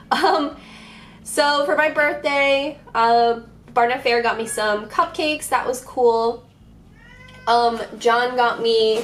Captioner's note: distant meows